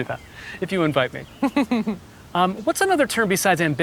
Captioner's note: Gwyneth chuckling